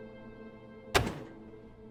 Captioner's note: ominous music; slam